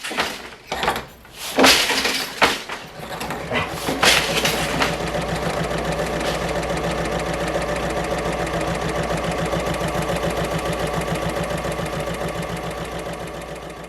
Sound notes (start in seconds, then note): 2.8 sewing Machine Sounds